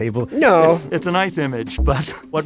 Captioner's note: laughs